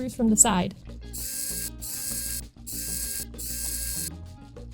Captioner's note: wow Sick Screw Noises